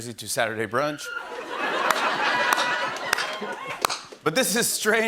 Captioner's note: laughter